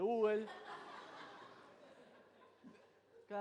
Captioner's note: crowd laughs